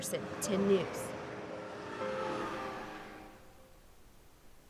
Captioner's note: truck drives